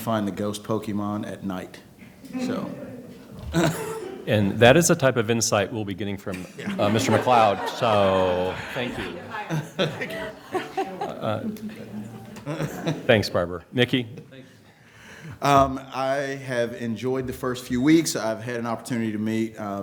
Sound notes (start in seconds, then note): 10.4 laughter